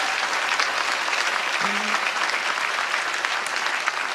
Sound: applause

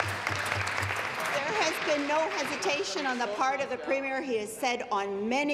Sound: applause

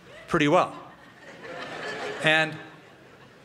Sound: laughter

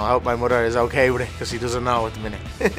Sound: laughs

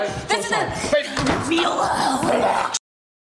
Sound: demonic noises

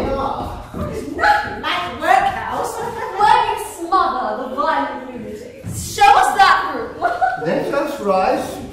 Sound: she laughs

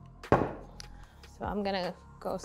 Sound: rolling pin clunking on counter

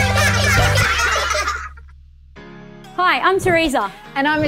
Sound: giggling

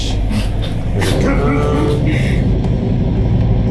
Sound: offscreen laughter

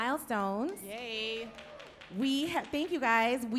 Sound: light applause

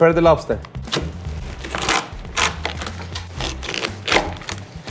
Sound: lobster crunching

